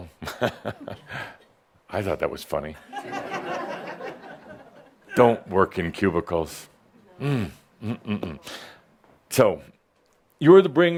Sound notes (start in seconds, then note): 0.2 chuckles; 3.4 some chuckles